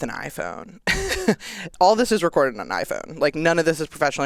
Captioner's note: chuckles